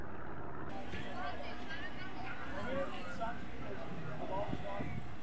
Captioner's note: crowd chattering